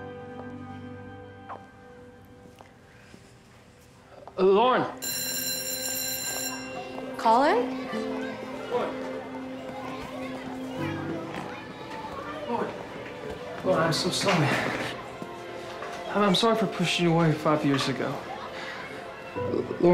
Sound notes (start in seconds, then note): 5.0 school bell rings; 7.7 children chattering; 9.7 children chattering